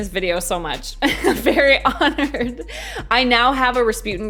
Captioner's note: laughs